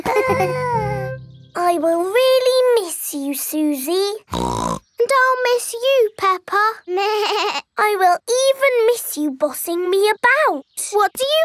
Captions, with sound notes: I will really miss you, Suzy. (SNORTS) And I'll miss you, Peppa. (BLEATS) I will even miss you bossing me about.